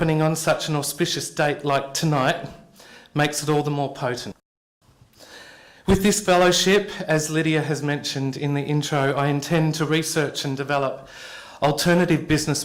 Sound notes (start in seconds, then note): none